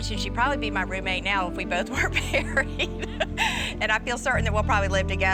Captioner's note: laughs